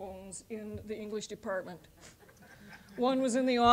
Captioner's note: audience laughing